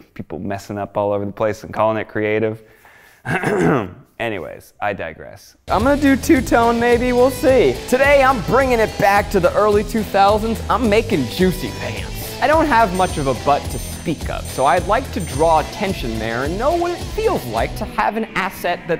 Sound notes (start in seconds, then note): 3.2 clearing throat